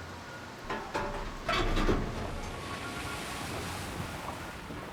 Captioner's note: metal banging